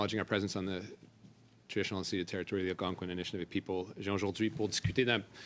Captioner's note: speaking French